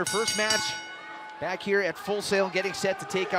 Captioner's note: crowd cheering; bell ringing